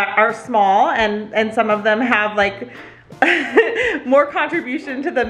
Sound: laughs

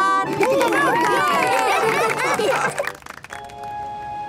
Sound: cheering, applause

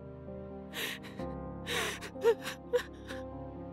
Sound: sobbing

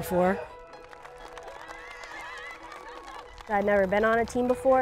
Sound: group applauding

